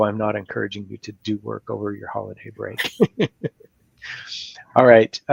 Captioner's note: laughs